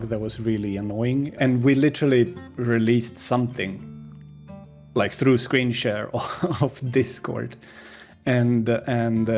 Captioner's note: laughs